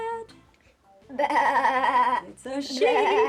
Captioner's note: bleating